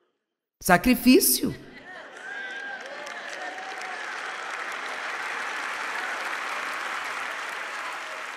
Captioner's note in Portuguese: audiência aplaude